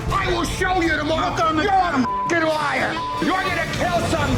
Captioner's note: beep